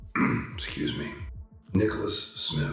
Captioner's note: ahem